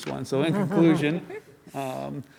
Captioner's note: laughing